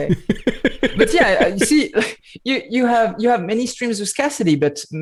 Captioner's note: laughter